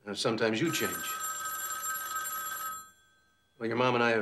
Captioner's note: phone ringing